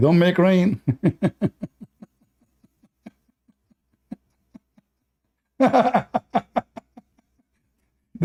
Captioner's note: Ketawa